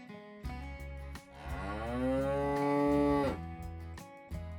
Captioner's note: cow Moo